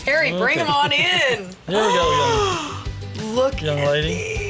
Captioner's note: gasping